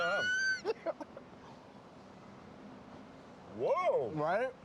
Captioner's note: laughing